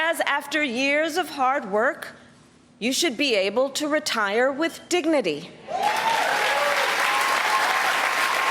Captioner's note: applause